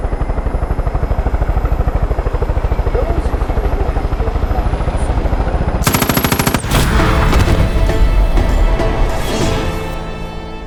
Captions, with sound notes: The roads are through, I feel the mountains. (gunfire) (dramatic music)